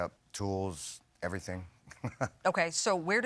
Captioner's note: chuckles